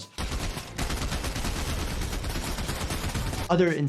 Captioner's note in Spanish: disparos de armas